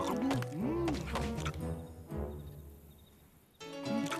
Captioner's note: munching